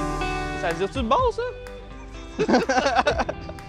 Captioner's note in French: rires